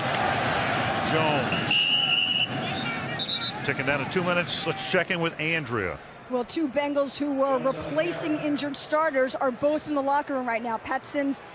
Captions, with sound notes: Jones. [whistle blowing] Ticking down to two minutes. Let's check in with Andrea. Well, two Bengals who were replacing injured starters are both in the locker room right now,